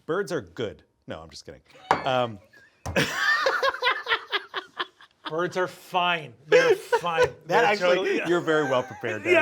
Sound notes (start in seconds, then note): 1.8 mug clinking; 2.9 Brennan chuckling; 3.2 Sam laughing